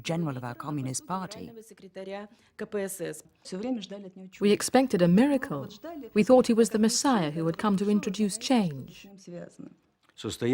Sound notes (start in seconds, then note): 3.5 speaking Russian